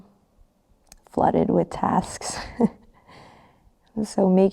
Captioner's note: laughs